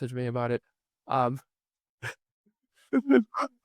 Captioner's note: laughing